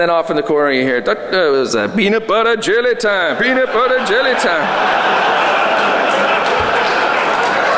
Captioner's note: laughter